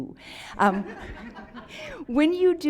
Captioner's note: audience laughs